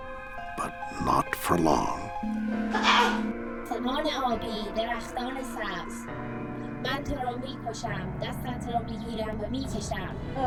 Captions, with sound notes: but not for long. - (cries out and speaks in foreign language)